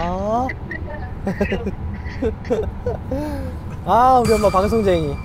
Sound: hehehe

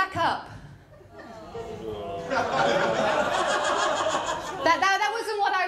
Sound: audience groan & laugh

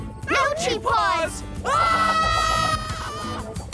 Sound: screaming

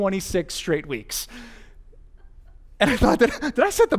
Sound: pastor: Laughter

